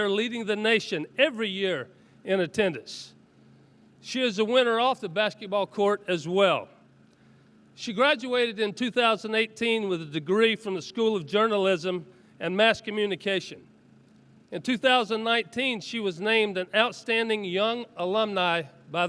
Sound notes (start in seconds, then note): none